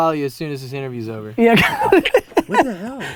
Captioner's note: group laughter